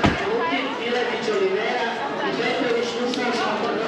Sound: people talking

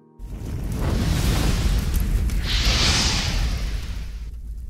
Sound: fire exploding

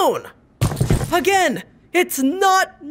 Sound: everyone shuffles

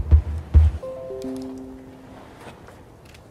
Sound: notification

